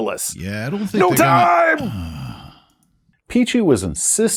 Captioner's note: sigh